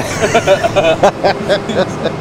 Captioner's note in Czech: Oba se zachechtají